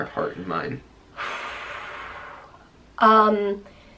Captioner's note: heavy sigh